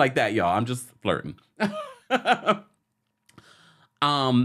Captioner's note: laughs